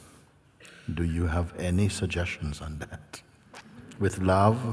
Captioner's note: laughs